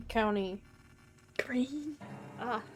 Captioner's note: strained